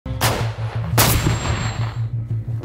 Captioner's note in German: Schüsse, angespannte Musik